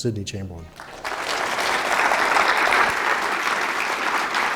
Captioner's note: applause